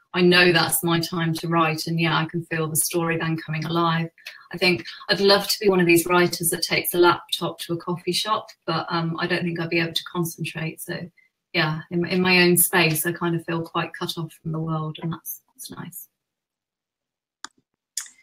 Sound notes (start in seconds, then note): none